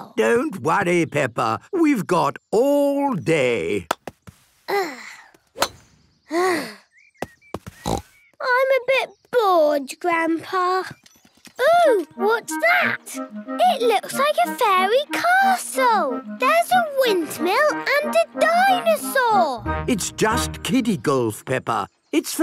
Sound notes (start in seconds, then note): 4.7 sighs; 7.8 snort